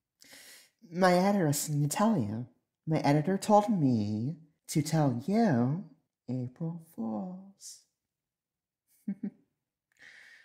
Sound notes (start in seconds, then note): 0.2 inhale